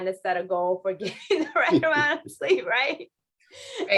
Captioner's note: laughter